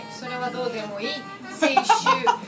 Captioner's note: laughing